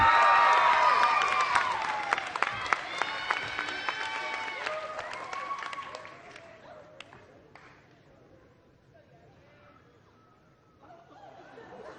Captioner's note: applause